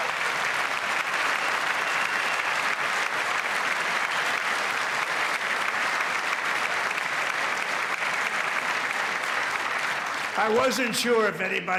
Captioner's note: applause